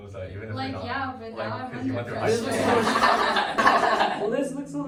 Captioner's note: big laughs all around